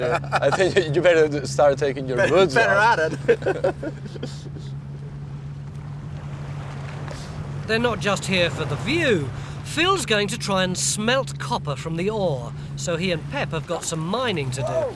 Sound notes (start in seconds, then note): 6.7 waves lapping